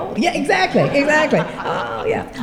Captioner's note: laughter